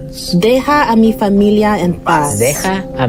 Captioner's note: non-english speech